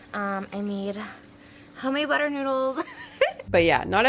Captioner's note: chuckles